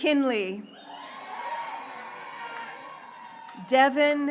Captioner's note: graduates cheering